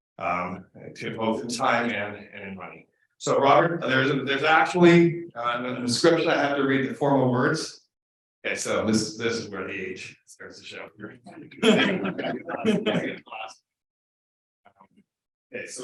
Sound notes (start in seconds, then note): 11.4 audience laughing